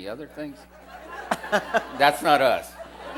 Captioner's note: laughter